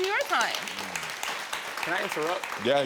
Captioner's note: audience applauding